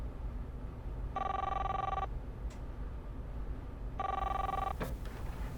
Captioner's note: cellphone ringing